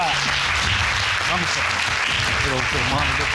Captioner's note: audience clapping